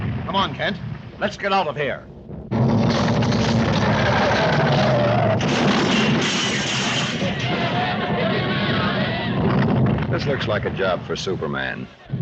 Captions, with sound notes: - Come on Kent, let's get out of here. (ground rumbling) (tires screeching) - This looks like a job for Superman.